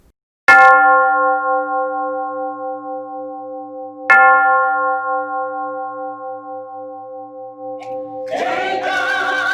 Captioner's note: bell gongs; people singing